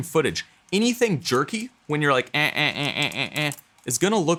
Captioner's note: creaking with voice